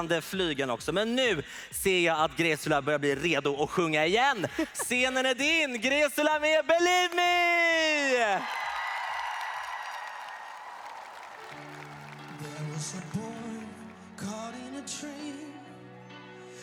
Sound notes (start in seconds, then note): 8.4 applause